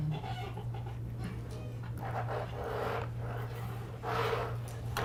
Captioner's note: equipment creaking and scraping